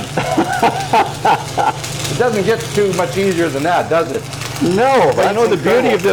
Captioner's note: laughing